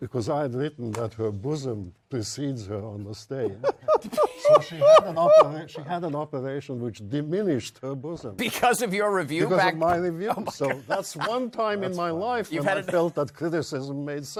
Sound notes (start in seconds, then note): 5.5 laughter